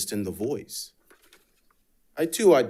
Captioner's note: paper rustling